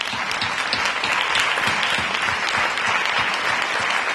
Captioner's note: applause